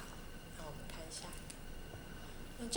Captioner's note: Mandarin